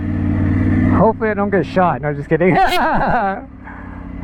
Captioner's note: laughs